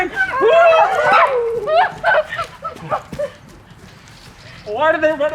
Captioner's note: laughing and screaming